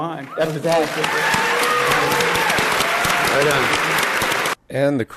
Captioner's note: audience cheering